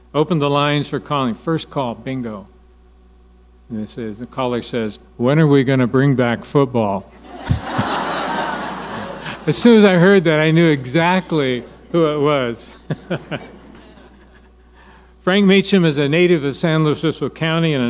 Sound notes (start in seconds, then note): 7.2 audience laughing; 12.7 laughing